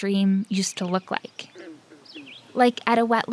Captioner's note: bird sounds